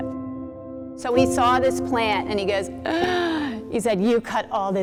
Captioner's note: gasp